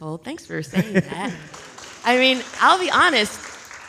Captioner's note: audience applauds